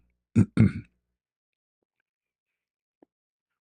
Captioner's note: berdehem